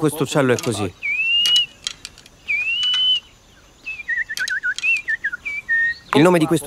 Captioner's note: bird sound